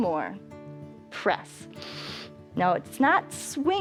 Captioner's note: inhales